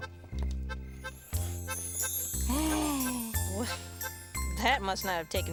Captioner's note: sparkling sounds; gasping